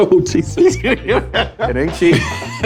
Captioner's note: men laughing